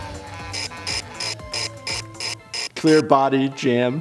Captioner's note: siren wailing